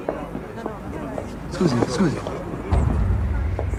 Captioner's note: guard speaking Italian